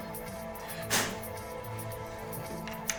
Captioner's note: blowing old USB